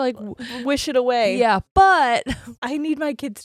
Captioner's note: chuckles